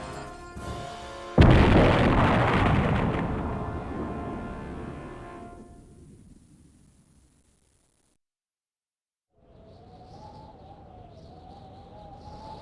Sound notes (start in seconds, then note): 1.3 explosion; 9.4 quiet wind